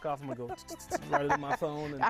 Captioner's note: laughing